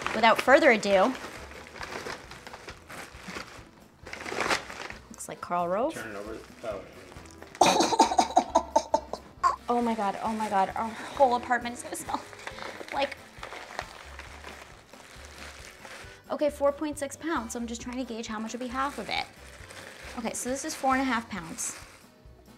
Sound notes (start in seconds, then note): 1.9 paper crumpling and ripping; 7.6 laughs; 13.7 paper rustling; 13.7 quiet upbeat music